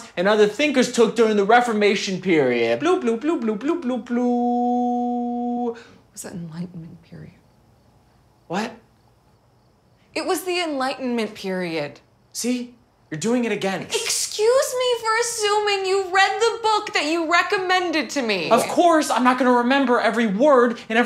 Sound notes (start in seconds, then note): 2.9 mimics computer blooping